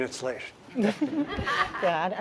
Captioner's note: laughs